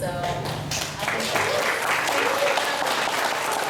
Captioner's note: applause